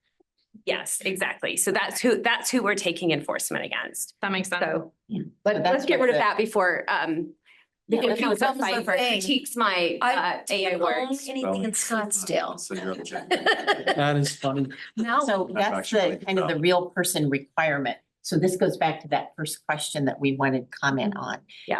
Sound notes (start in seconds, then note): 12.6 laughs